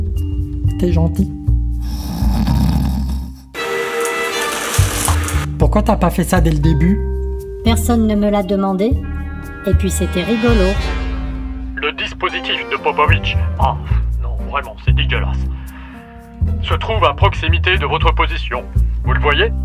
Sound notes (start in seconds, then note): 1.8 snores